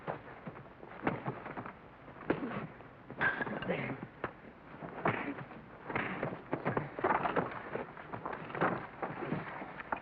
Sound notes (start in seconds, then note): 3.1 whack; 5.8 sounds of scuffling